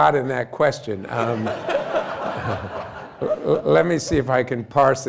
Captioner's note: laughter